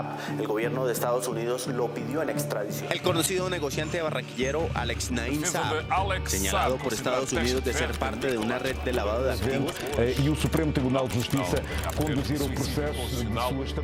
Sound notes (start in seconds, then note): 4.6 newscasters reporting about Alex Saab in Spanish; 7.3 keys clacking